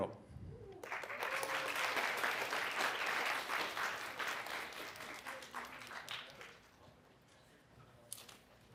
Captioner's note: applause